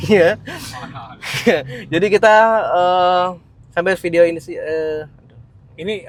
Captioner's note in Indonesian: tertawa